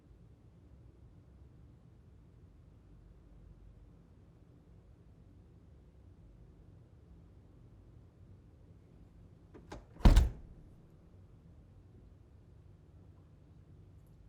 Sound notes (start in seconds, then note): 9.6 door thuds